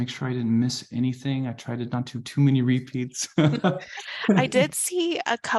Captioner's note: chuckles